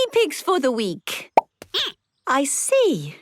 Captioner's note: squeaking